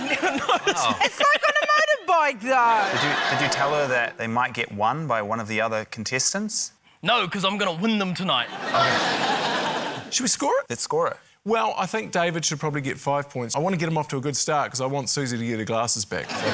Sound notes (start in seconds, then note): 8.5 laughter